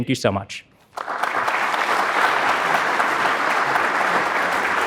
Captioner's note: audience applauding